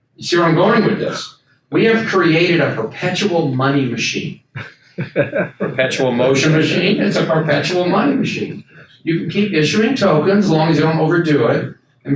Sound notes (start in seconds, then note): 5.0 audience member laughs